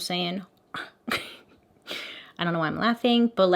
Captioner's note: laughs